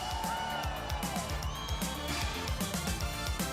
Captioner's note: crowd cheering